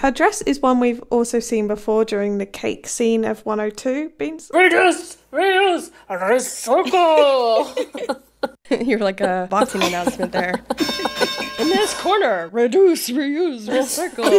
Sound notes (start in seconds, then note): 6.6 laughing; 9.6 bell ringing; 13.6 laughing